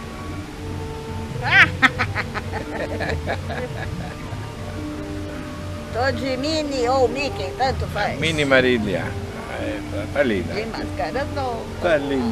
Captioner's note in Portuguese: risos